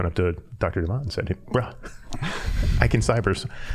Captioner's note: all chuckling